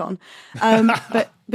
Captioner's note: laughs